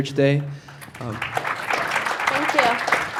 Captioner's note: attendees clapping